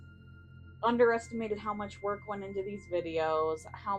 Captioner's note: none